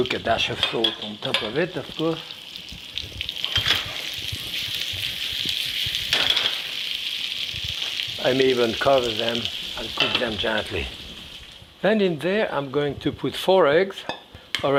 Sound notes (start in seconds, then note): 3.0 potatoes sizzling